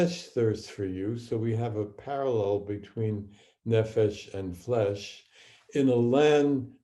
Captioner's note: speaking hebrew